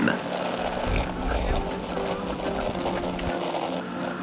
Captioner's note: drinking wine fx